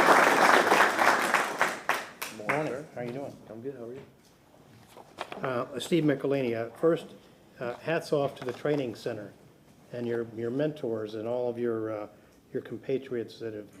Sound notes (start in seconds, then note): 3.5 applause